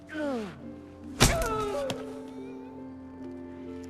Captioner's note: hitting